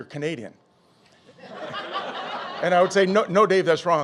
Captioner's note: audience laughing